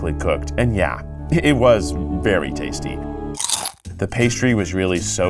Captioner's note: teeth gnashing